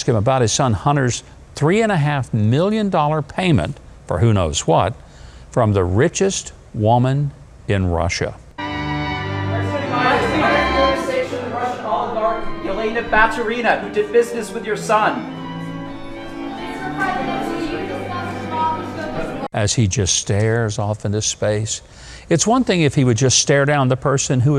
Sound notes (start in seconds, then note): 8.8 serene music; 9.9 reporters shouting